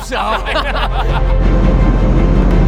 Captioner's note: laughter; dramatic music